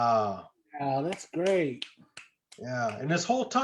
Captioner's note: clapping